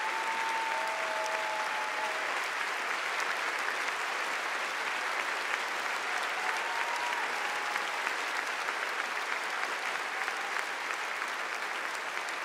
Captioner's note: applause